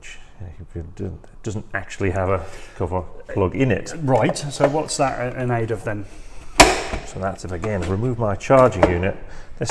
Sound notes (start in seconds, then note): 6.5 cover snaps